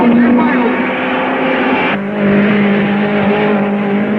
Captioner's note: car revving